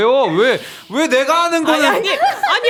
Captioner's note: frustrated